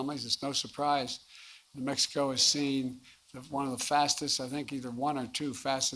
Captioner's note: none